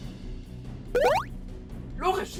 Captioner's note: boing